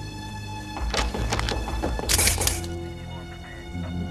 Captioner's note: loud banging